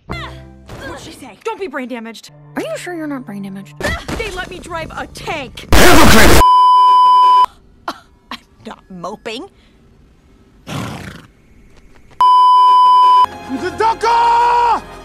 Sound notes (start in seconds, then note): 8.1 guffaws; 10.6 exasperated snort